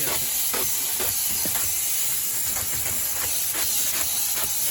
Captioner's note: sprayer hissing